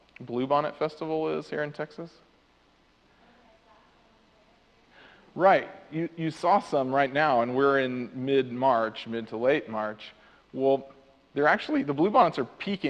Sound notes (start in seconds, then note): 4.5 audience member answers off microphone